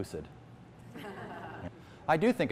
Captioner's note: laughter